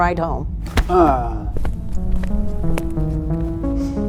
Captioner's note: Jack groans; space ambient music